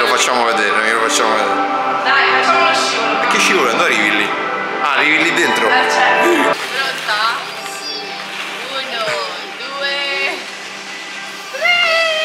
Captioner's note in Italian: Applauso